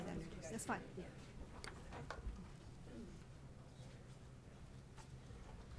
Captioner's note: people chattering